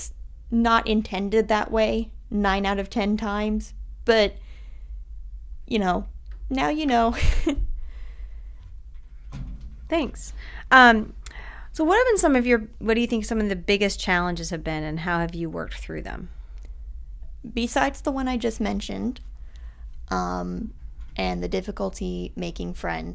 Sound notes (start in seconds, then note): 7.1 laughter